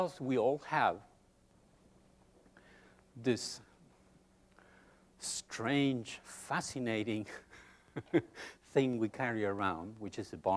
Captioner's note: chuckles